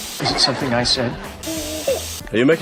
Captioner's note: laughter